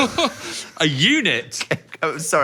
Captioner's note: laughs